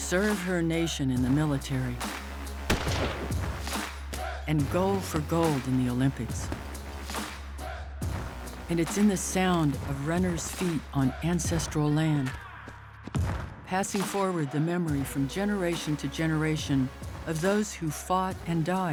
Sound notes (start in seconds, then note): 2.6 fires